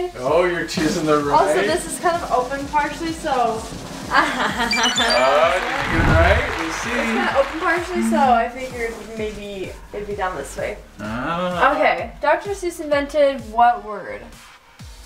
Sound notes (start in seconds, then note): 3.7 drum roll; 4.1 laughs; 4.6 high-pitched beeps